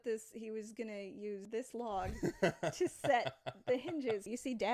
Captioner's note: laughs